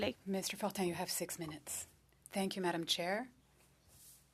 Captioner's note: speaking French